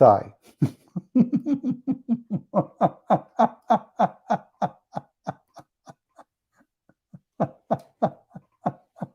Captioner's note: Ketawa